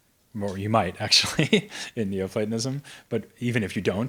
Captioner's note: laughs